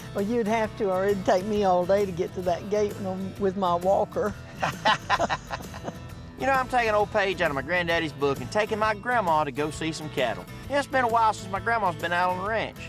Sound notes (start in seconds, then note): 4.4 laughs